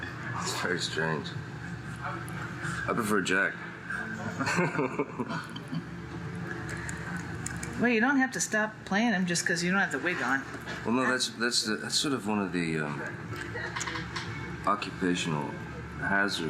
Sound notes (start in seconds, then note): 4.2 chuckles